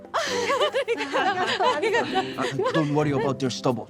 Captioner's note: girls giggling